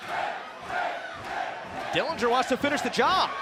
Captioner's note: crowd cheering